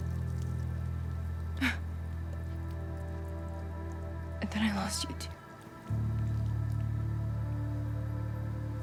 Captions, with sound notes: [SIGHS] And then I lost you, too. [SOMBER MUSIC]